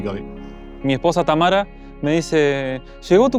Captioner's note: in Spanish